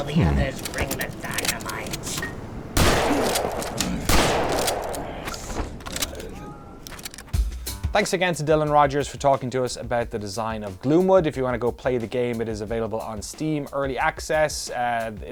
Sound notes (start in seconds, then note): 4.0 gun clacks